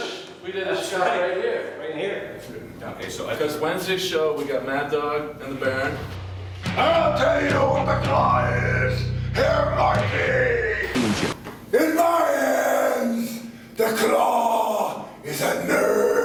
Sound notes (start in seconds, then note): 10.9 static crackles